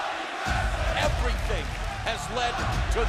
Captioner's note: crowd cheering